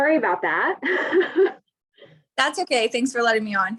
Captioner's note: she laughs